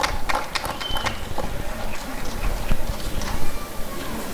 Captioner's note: applause and cheering